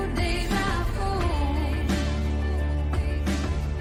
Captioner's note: "déjà vu" echoes